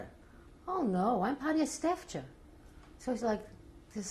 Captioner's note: non-english